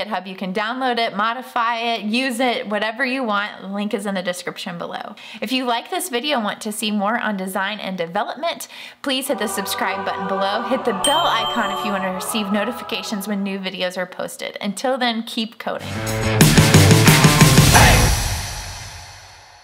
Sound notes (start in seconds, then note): 9.2 dramatic music; 9.2 bell ringing; 16.2 heavy rock music